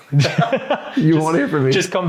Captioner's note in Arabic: يضحكون